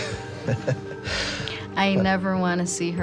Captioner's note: laughter